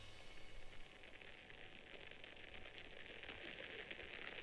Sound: abstract white noise

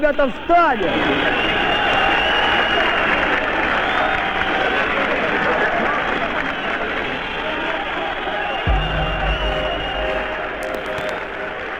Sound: loud applause, whistle

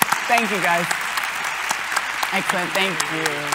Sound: audience applauds

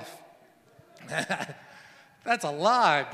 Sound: laughs

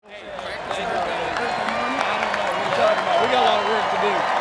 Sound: cheering

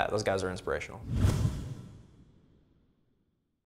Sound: boom

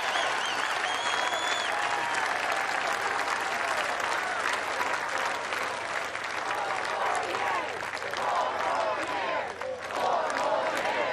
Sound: cheers and applause

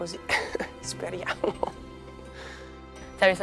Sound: laugh

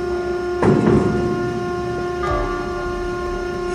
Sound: machine whirring; cage thuds; machine whirring

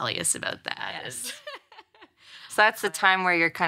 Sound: laughs

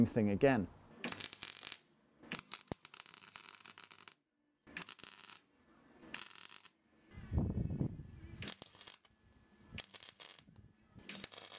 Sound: welding

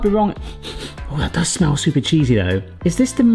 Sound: sniffs

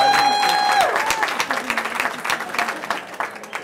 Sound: cheering

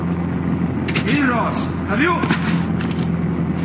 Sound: door opening

